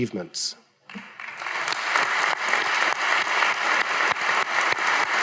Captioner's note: audience applauding